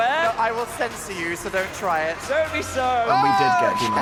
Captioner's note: beep